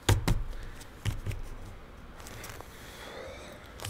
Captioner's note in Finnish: Huokaus